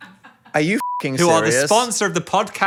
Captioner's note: beep